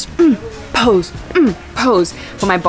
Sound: grunt

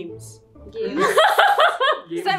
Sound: laughs

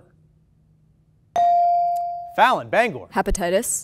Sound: ding

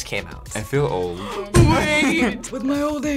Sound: gasps; raspy

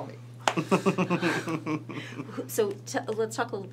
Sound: laughs

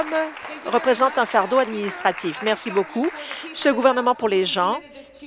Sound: applause

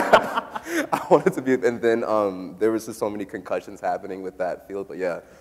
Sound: laughs

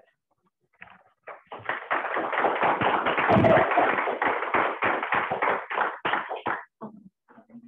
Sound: applause

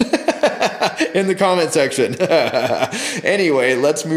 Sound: laughs

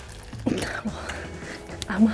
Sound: giggles

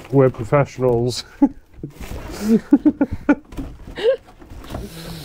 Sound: laugh

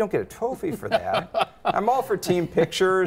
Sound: chuckles

